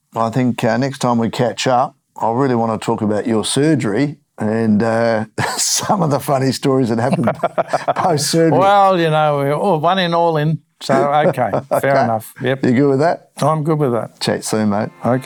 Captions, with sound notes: I think next time we catch up, I really wanna talk about your surgery and some of the funny stories that happened. (laughing) Well, you know, one in all in. So, okay, fair enough. You good with that? I'm good with that. Check soon, mate.